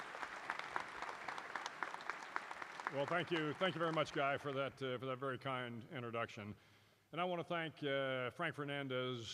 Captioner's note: applause